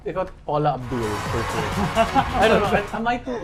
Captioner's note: laughs